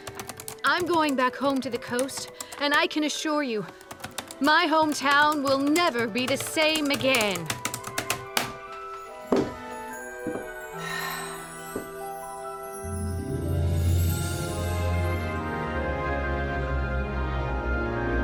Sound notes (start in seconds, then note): 7.5 typing stops; 10.7 sighs with delight